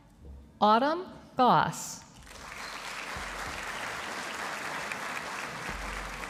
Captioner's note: audience applauding